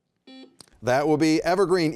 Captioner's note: buzzer beeping